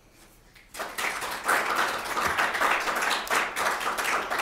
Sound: audience clapping

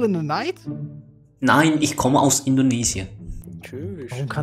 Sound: German

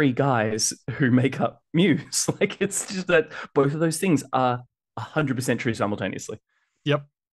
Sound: laughs

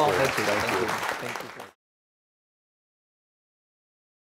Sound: audience applauds

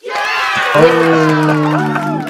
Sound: crowd cheering

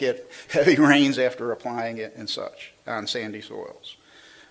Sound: laughs

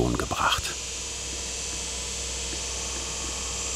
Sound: loud machine humming

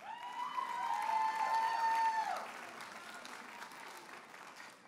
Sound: audience applauding and cheering

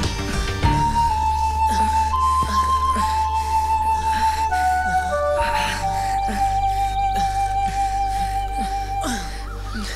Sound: panting

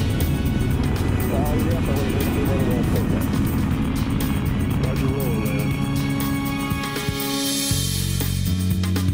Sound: roar of rockets and radio chatter

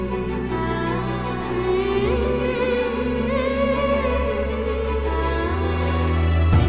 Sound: 𝅘𝅥𝅮 Humming 𝅘𝅥𝅮

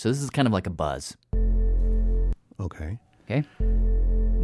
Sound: low-pitch buzzing

